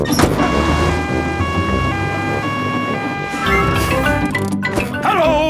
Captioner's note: siren wailing